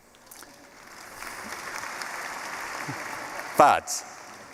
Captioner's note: applause